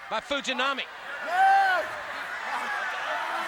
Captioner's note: crowd chatter